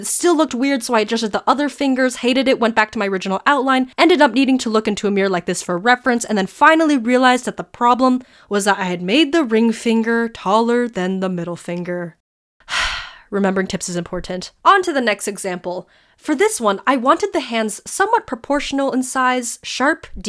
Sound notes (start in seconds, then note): 12.7 sigh